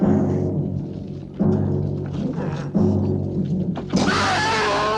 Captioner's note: groaning; screaming